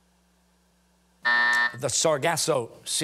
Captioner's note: buzzer sounding